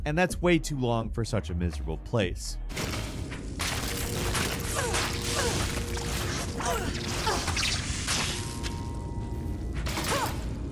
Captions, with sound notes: and that's way too long for such a miserable place. (character grunting) (missiles firing)